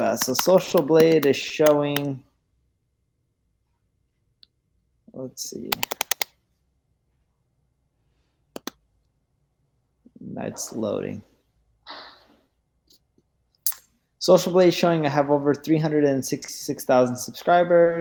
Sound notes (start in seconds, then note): 0.0 keyboard clicks; 5.7 keyboard clicks loudly